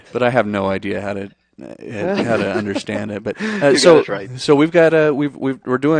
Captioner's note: laughs